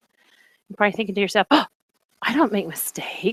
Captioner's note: gasp